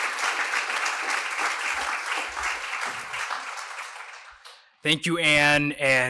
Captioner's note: applause